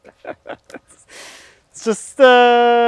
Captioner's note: laughs